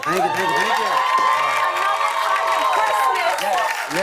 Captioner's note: cheers and applause